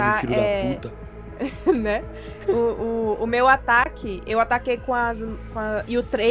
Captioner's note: laughs